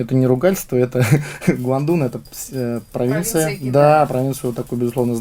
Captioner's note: laughter